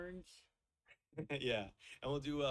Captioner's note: chuckles